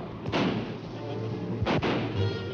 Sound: guns fires; guns firing; dramatic music

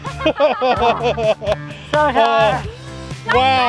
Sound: laughing

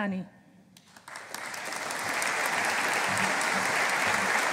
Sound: audience applauding

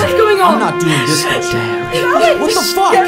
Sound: crying

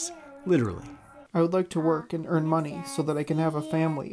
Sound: through translator

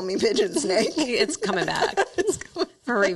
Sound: laughs

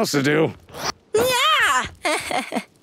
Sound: chuckles

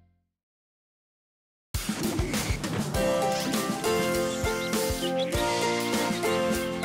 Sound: upbeat music; animal sounds

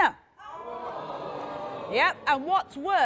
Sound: crowd gasps

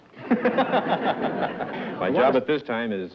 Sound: laughter

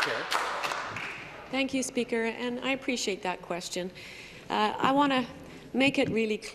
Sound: applause

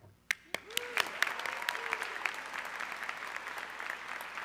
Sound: audience clapping

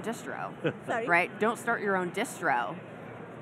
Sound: chuckling

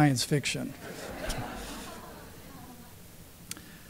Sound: laughter

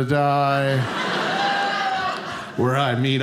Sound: audience laughing

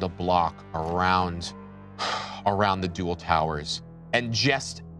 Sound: sighs

